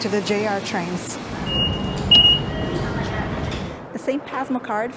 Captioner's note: beeps